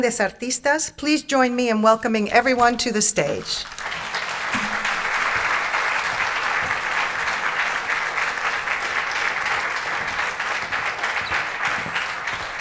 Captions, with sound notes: Please join me in welcoming everyone to the stage. (audience clapping)